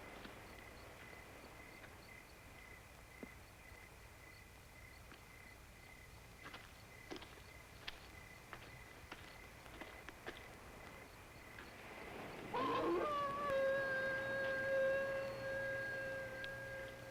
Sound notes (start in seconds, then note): 12.4 howling